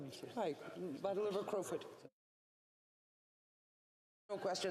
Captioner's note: speaking french